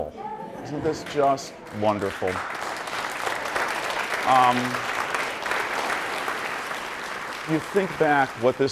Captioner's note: audience applauding